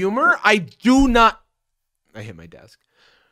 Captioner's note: desk thudding